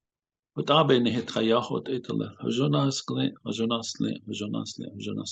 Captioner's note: speaking Navajo